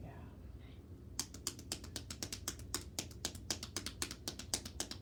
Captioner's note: hands tapping